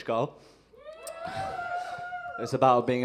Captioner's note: audience cheers